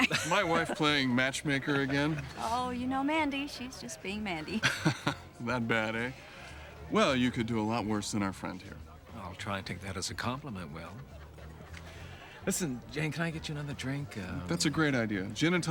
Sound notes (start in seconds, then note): 4.6 laughs